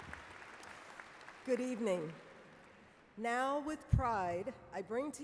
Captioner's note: applause